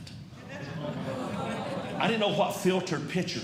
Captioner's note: audience Groaning